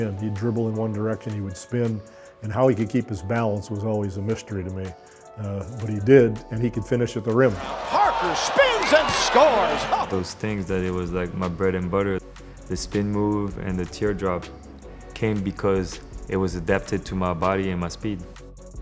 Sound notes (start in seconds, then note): 7.5 crowd cheering